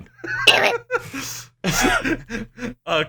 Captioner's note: muffled laughter